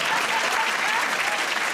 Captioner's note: applause